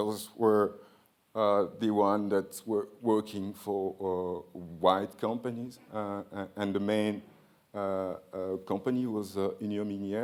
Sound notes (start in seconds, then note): none